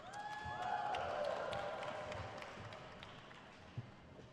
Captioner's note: crowd cheers